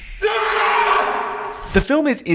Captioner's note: screaming